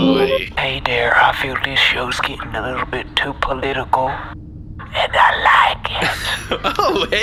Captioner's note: voicemail plays; hushed